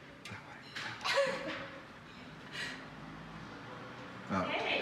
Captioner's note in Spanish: riendo